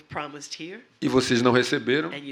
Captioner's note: speaking portuguese